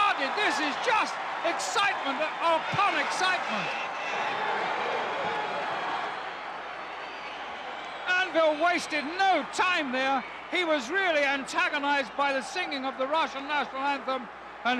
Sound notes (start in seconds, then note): 3.7 crowd yelling